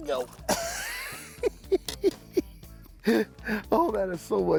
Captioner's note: chuckling